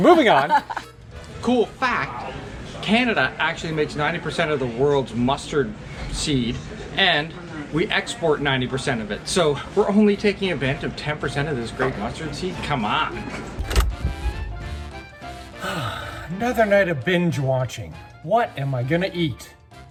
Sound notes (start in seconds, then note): 13.5 upbeat music; 15.6 sighs